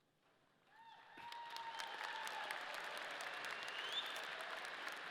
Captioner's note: audience applauding